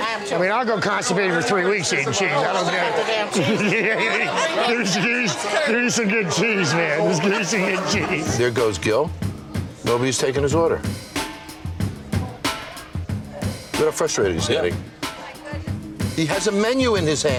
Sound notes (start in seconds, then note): 5.2 laughing; 12.7 upbeat music